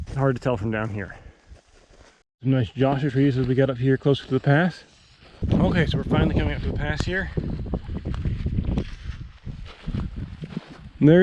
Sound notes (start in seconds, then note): 5.4 wind whistling; 8.4 footsteps thumping